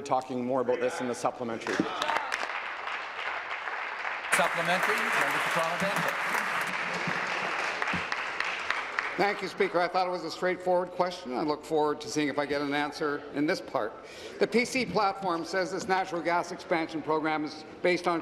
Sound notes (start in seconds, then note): 6.0 applause